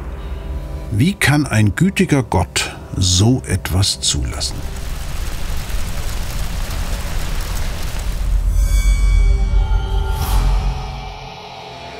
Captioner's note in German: Geräusche von Naturkatastrophen